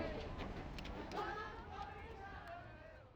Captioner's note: people chattering